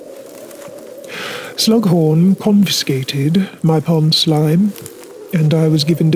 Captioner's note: deep Breath